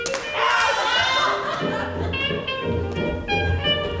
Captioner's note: hand smacks